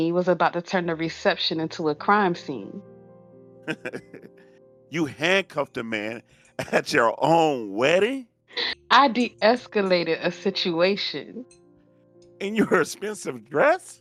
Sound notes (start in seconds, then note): 3.6 laughing